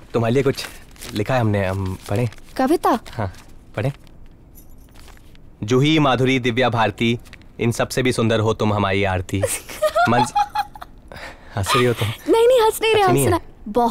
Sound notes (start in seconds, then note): 9.5 Laughs